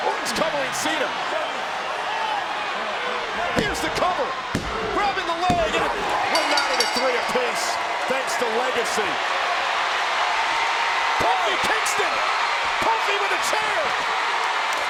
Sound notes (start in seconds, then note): 6.1 bell rings; 9.6 crowd cheering